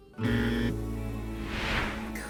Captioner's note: whooshing noise; fail horn blares; whooshing noise